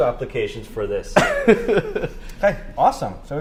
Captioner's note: laughs